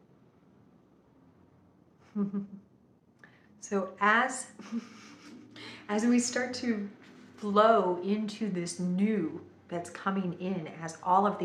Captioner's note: giggles